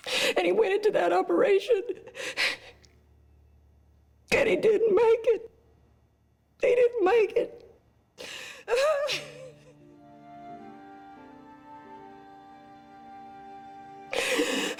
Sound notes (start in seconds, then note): 8.7 cries; 11.1 somber music